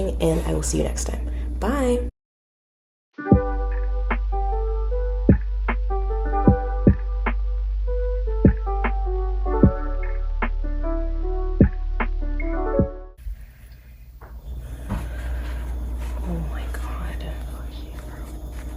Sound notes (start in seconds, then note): 6.7 outro music plays; 13.2 fridge system kicking on loudly